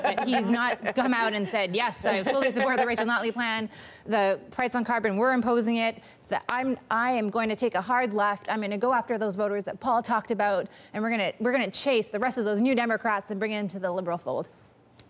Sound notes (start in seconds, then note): 3.7 laughter